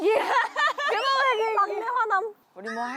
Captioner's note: laughing